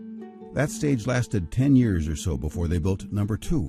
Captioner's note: voiceover